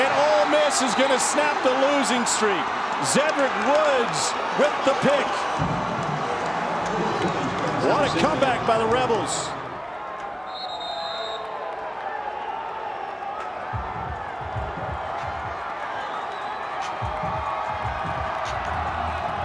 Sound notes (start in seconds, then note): 10.4 whistle; 14.4 crowd Cheering